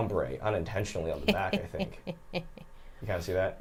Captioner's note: snickers